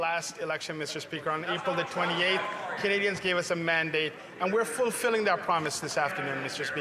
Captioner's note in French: voix de l'interprète